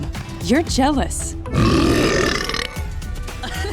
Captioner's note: belching; laughing